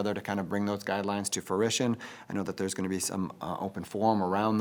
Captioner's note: none